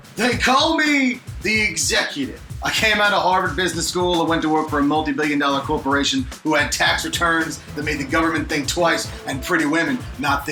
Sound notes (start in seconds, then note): none